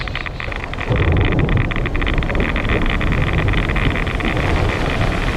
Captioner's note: geiger counter crackles loudly